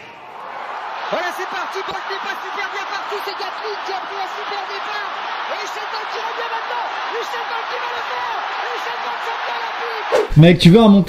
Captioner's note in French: Bruits d'athlétisme avec présentateur qui parle